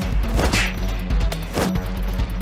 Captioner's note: gun slides away